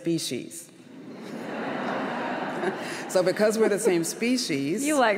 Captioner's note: laughter